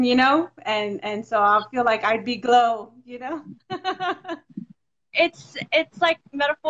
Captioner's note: laughs